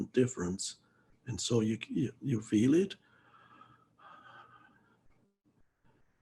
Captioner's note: exhales slowly